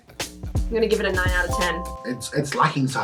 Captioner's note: dings